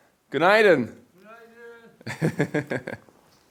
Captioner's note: greet in foreign language; laughs